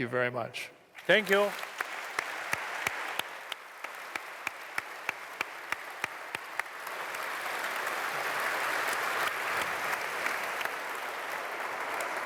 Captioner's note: applause